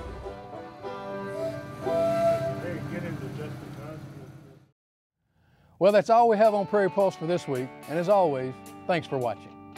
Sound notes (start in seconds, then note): 0.0 train whistle